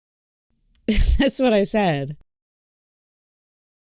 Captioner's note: scoffs